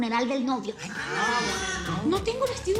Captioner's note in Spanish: Exclamaciones